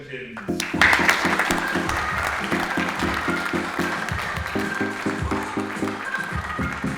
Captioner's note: audience applauds; upbeat music